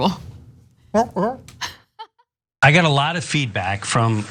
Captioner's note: laugh